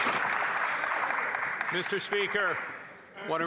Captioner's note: some Applause